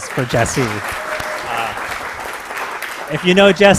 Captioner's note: applause